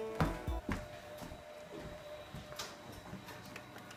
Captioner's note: footsteps